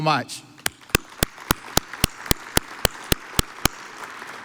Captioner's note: audience applauds